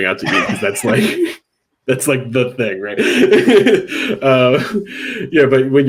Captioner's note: laughing